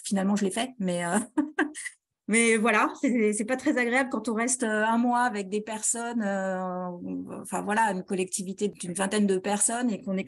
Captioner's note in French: rires